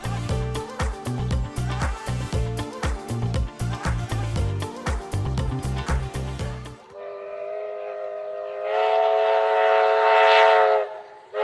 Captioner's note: steam engine noise